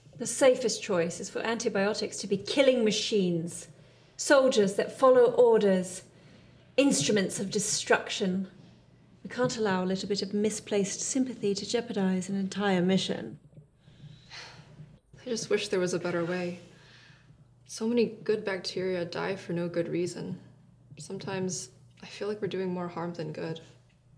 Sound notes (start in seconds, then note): 14.3 sigh